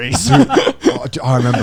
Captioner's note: laughing